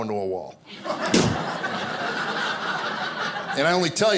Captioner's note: imitating crashing sound